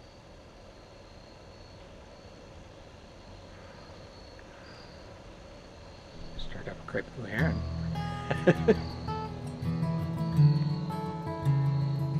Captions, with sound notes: (bird calling in response) - Stirred up a great blue heron (laughs) (slow acoustic guitar playing)